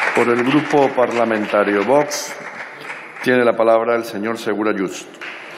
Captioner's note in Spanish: Aplausos